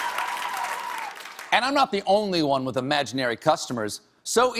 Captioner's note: applause